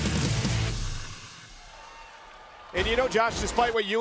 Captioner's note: crowd cheering